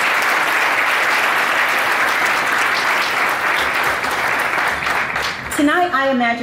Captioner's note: audience applauding